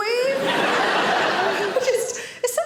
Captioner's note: audience laughing